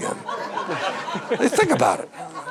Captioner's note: audience laughing